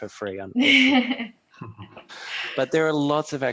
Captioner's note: laughs